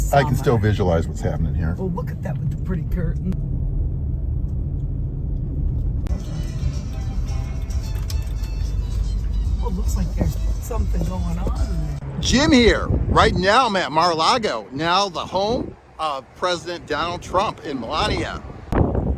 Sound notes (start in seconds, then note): 5.6 cars softly passing; 7.6 distant upbeat music; 19.0 wind whistling